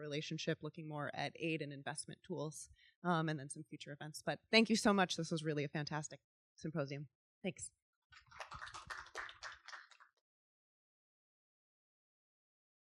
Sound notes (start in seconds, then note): 8.1 audience clapping